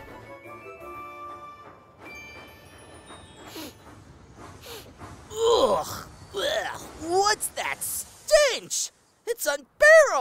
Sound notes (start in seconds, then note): 3.8 james sniffs